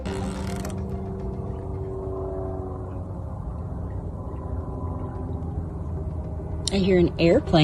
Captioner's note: background music; background airplane noise